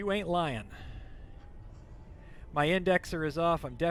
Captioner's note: engine humming